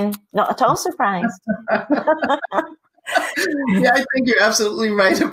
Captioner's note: laughing